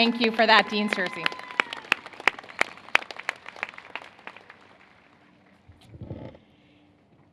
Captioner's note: applause